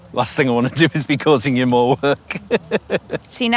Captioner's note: chuckles